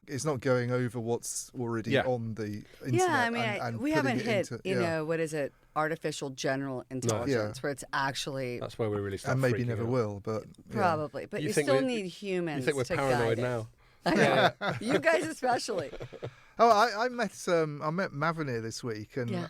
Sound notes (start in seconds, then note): 14.1 laughs